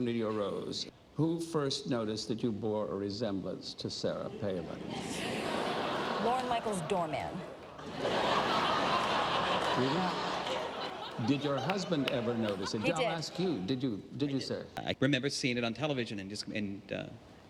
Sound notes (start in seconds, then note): 7.7 laughter; 11.2 applause